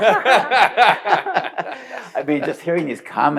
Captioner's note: panelists laughing